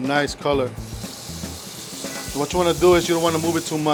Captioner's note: pan sizzling